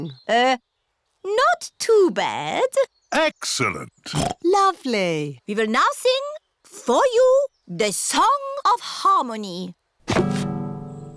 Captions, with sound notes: Er... Not too bad. -Excellent! (OINKS) -Lovely. We will now sing for you the song of harmony.